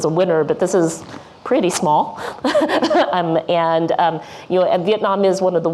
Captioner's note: laughs